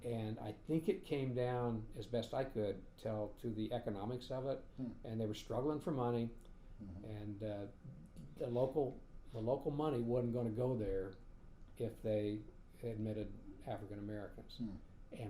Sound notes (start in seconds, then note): none